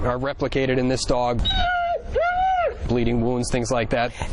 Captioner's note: dog crying